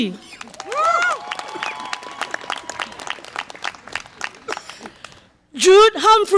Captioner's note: audience applause and cheer